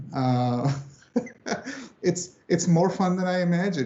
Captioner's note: laughs